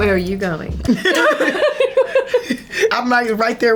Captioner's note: both laugh